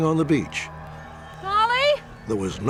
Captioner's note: yelling